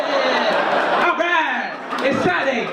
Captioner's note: audience laugh